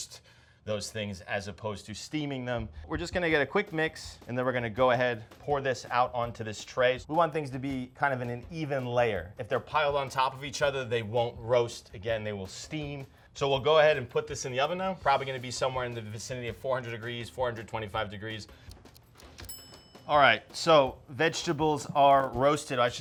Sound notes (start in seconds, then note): 18.8 clock ticking; 19.3 bell ringing